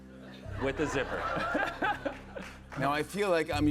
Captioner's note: laughs